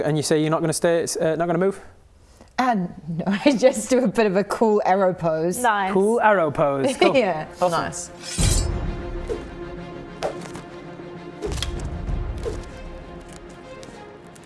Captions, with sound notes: And you say you're not going to stay-- not going to move? Ah no, I just do a bit of a cool Arrow pose. Nice. Cool Arrow pose. Cool. Oh, nice. *shiiing* *whoosh* *whoosh* *whoosh*